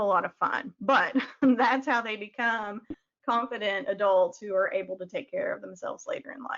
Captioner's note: chuckles